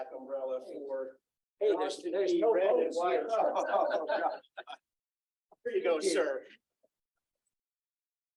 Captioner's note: laughter